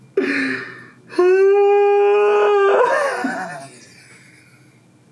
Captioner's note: groans and laughs